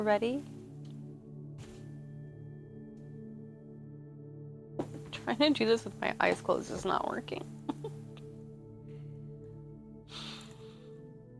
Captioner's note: giggle